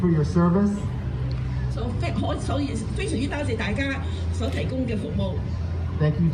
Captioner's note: speaking foreign language